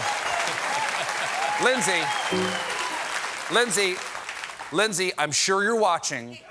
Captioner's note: applause